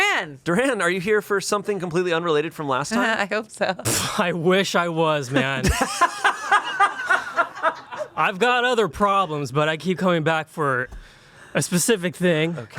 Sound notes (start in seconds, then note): 5.4 everyone laughs